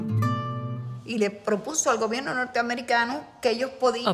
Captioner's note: speaking in Spanish